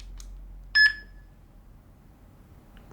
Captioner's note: beep